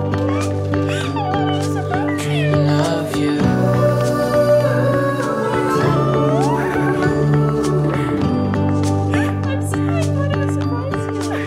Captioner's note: high-pitched squealing lol